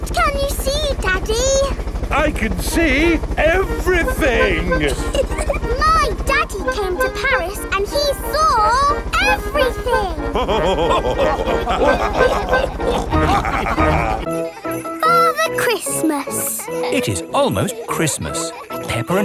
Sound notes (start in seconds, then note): 5.4 chuckles; 9.1 all laughing